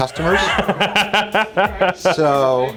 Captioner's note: laughing